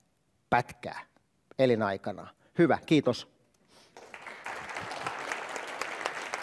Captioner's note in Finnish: Yleisön taputuksia